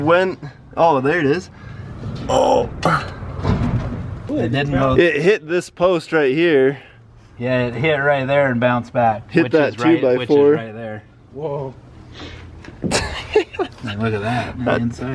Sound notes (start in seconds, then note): 2.3 grunting; 12.9 laughing